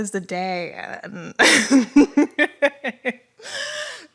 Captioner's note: laughter